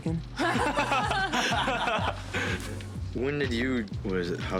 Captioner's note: everyone laughing